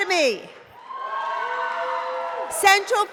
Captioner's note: cheering